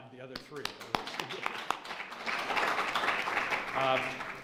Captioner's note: applause